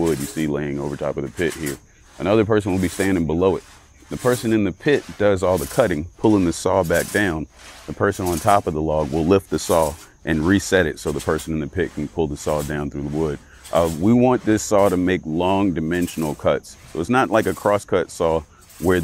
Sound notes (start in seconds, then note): 7.1 saw rips through wood